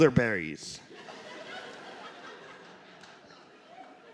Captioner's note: laughter